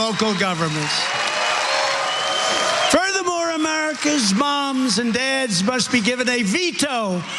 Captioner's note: applause